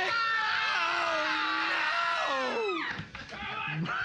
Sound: screaming; laughing

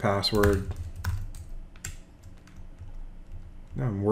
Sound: typing

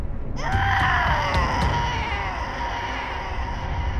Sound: grunting

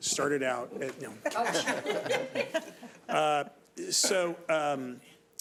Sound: all laughing

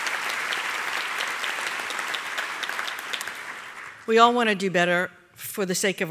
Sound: applause

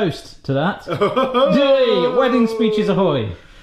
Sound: laughs

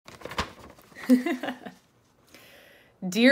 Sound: laughs

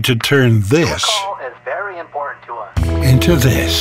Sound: voice On Phone

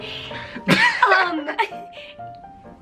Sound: laughing

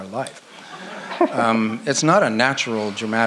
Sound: audience laughs

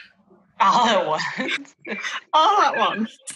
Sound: laughing

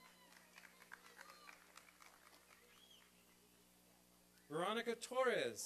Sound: applause and cheering

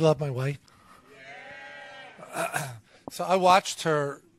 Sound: members agreeing

